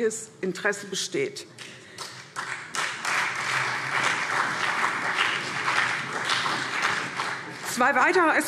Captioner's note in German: Beifall CDU und BÜNDNIS 90/DIE GRÜNEN